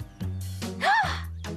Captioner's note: gasps